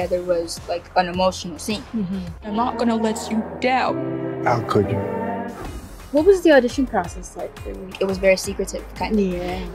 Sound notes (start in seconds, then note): 2.5 crying